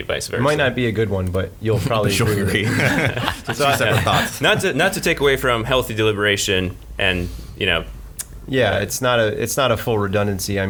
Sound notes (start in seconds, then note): 1.8 laughter drowns out voice